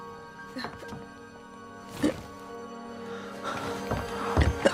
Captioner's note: garbled coughing